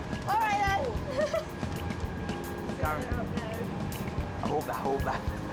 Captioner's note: laughing